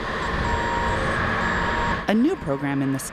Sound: machine beeping

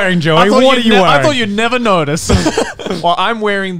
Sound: laughs

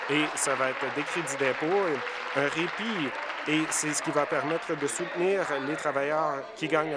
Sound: applause

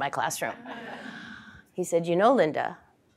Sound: laugh

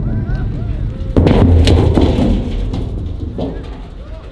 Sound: drums falling

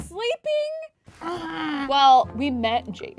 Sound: groaning

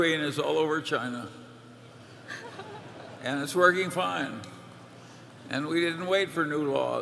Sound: laughter

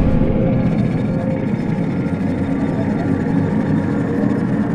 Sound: whoosh; distant roadworks

